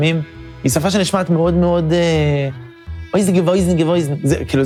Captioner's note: yiddish noise impression